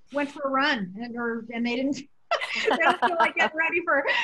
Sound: laughter

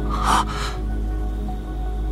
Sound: gasps

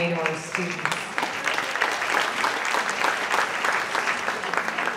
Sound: audience clapping

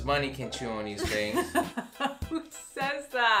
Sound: laughing

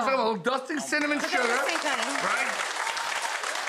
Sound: audience cheers

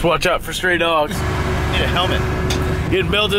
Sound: engine running

